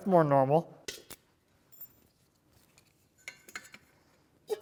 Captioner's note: metals clinking